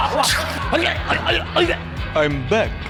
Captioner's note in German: erstickt